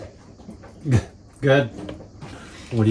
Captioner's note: chuckle